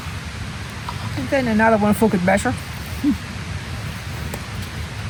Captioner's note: laughs